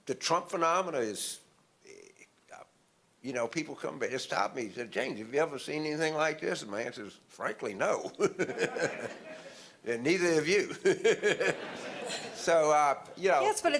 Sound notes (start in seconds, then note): 8.3 audience laughter